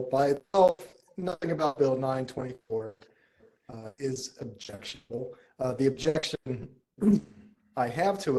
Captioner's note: cough